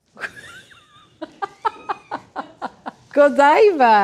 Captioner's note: chocolatier laughs